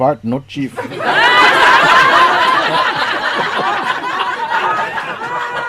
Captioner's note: laughter